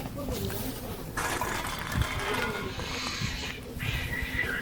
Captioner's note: cats fighting